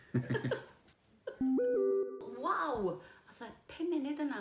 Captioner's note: laughing; electronic ping